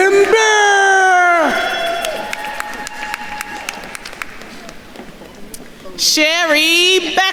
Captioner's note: attendees cheering and applauding